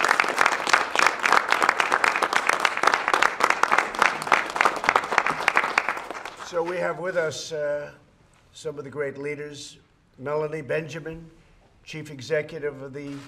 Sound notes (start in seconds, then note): 0.0 applause